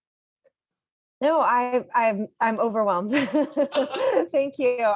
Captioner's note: laughs